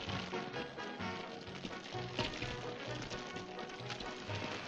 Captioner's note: fire crackling